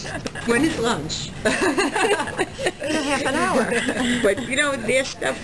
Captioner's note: both laugh